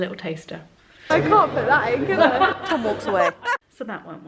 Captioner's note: laughter